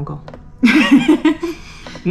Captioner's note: laughs